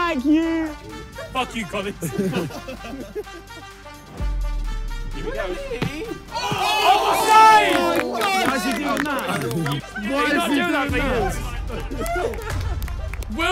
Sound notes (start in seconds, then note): 0.9 players laugh; 3.2 upbeat electronic music; 6.4 players shout